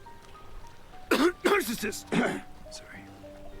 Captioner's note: Kent coughing